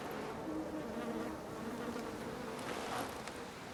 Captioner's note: flies buzzing